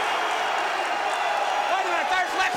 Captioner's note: crowd cheering